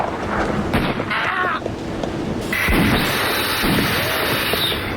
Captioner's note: groaning